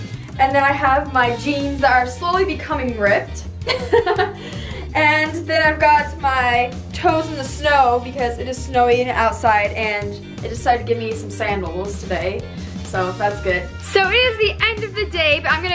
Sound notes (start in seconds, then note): 3.6 laughs